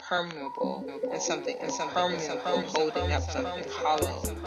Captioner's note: echoes